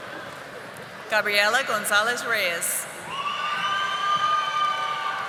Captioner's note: audience applauding